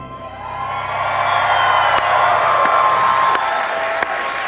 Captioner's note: audience applauding